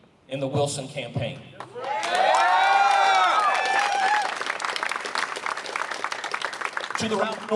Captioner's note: applause